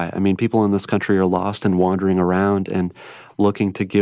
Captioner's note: none